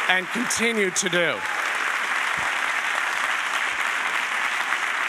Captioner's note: audience applauding